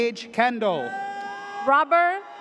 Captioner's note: audience cheers